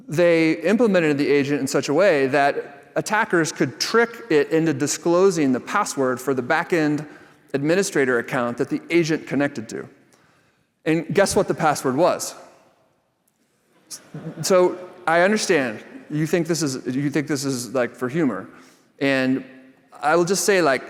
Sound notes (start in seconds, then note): 13.9 laughter